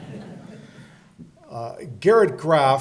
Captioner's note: audience chuckling